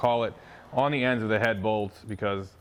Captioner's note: metal clinking